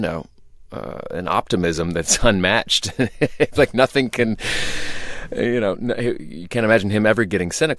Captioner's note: laughter